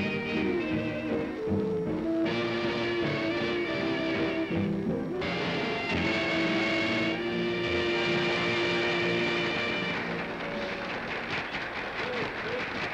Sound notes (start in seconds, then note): 9.4 applause